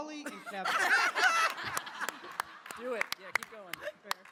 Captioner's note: laughing